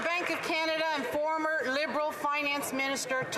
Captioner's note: some Applause